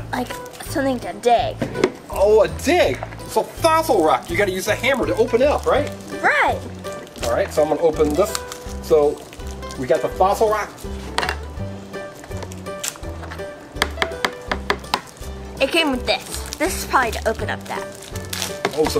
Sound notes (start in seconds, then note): 11.0 upbeat music; 13.7 hammer bangs